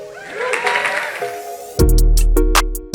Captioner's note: audience applauding; upbeat music